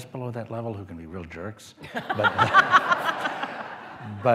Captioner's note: laughter